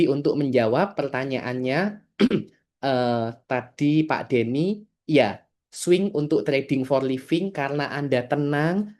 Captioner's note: berdehem